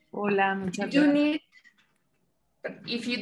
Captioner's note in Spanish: hablando inglés